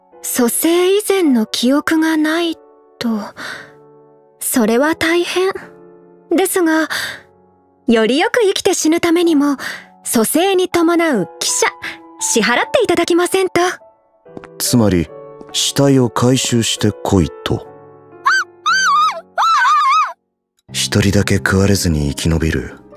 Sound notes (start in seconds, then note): 19.4 screams exaggeratedly